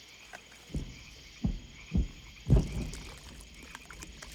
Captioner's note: repeated distant explosions